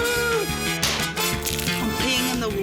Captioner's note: groans; pop!